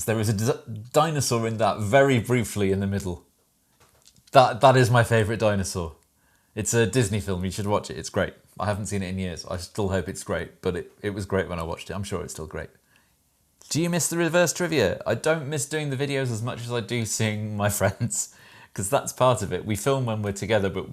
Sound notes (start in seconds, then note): none